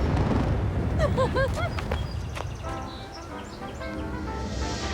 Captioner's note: Eliza giggling